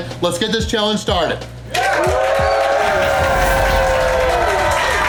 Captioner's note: crowd clapping and cheering